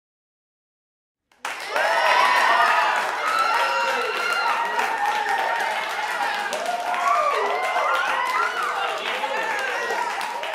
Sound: sound of clapping

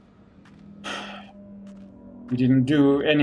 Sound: sighs

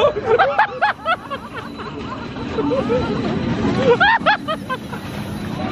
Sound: laughs hysterically

